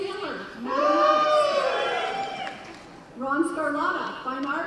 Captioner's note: cheering